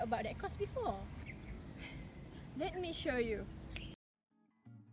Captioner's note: sigh